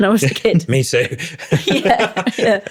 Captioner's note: laughing